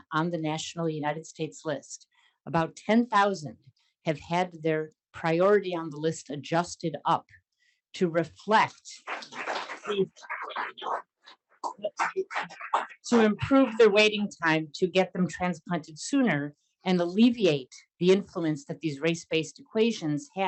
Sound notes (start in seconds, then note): 9.0 audience applauding